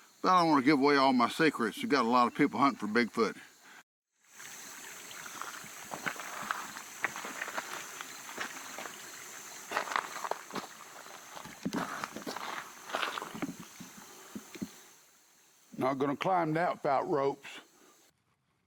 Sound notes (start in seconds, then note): 4.2 creek flowing; 4.2 insects chittering; 5.8 footsteps pattering